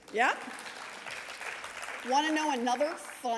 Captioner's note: audience applauding